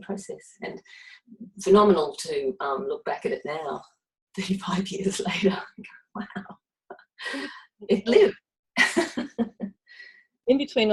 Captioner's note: laughs